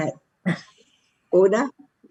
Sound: laughs

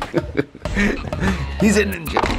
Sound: laughing

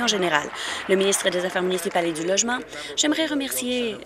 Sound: applause

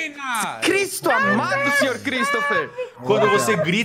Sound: yelling; yelling

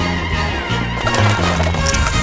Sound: popcorn pops; soft drink sizzles

